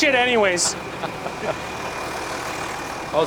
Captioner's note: laughs